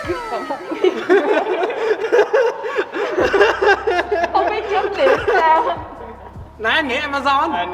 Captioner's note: laughs